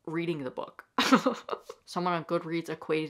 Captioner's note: laughing